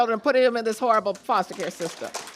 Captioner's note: applause